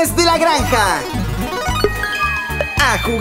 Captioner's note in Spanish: Sonido de ruleta